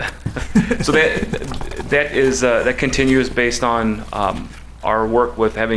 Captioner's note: laughs